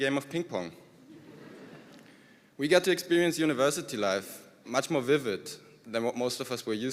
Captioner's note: laughter